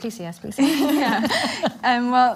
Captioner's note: everyone laughs